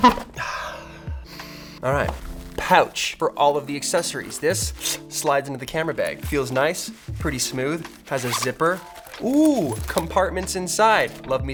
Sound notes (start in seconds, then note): 0.0 jiggling; 1.2 sniffing